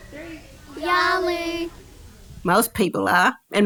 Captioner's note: kids speaking in Kamilaroi language